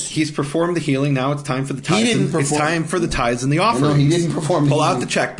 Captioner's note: laughing